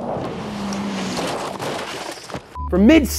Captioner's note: car crashing